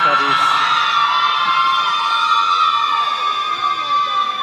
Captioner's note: all cheering